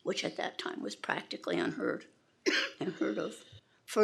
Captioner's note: attendee coughing